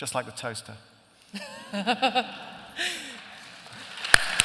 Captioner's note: laughter; applause